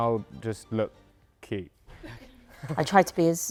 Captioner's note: laughter